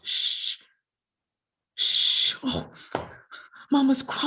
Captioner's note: shushes